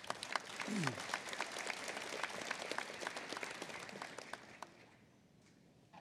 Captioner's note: applause